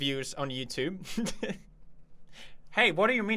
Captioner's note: chuckles